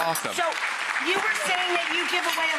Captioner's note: crowd clapping